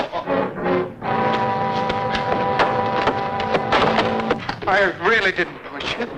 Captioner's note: tense music; footsteps thudding